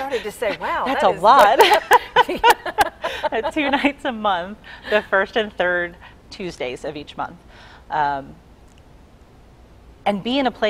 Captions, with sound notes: "Wow, that is--" - That's a lot! (laughing) Two nights a month, the first and third Tuesdays of each month. And be in a place where